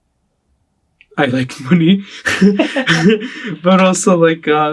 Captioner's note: laughs